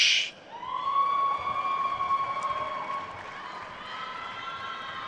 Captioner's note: attendees cheering and applauding